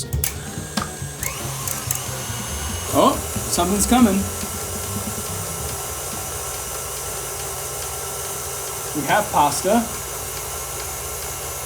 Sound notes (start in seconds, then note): 0.1 machine whirring; 5.0 machine whirring